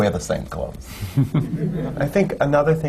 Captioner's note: laughter